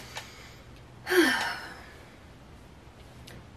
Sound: sigh

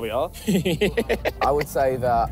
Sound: laughs

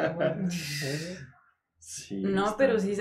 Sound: laughter

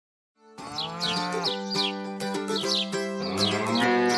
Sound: birds chirp; cows moo; upbeat music

